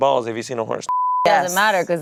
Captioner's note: beep